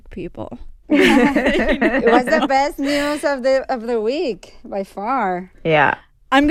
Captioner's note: laughter